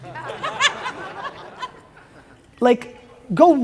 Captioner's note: audience laughs